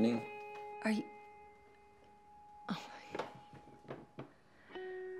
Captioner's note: sighs